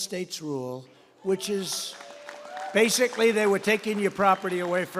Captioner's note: applause